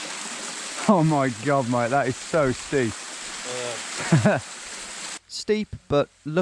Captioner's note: laughs